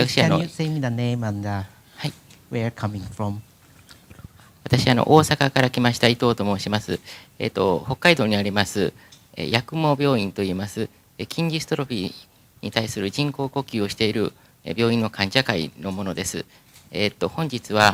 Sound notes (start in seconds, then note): 5.3 speaking japanese